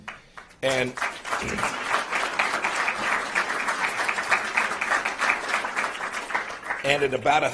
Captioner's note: applause